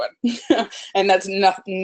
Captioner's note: laughs